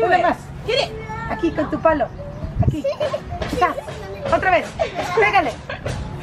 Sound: speaking in foreign language

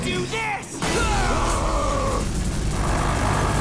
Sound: roaring

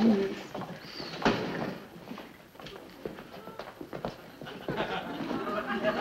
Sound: loud shuffling around of books; audience laughs

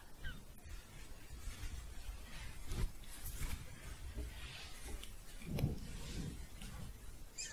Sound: shuffling

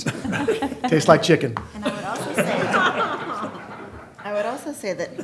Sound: laughter

